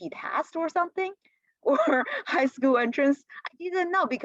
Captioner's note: laughter